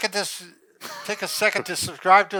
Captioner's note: laughing